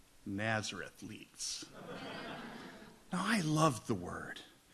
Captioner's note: audience laughs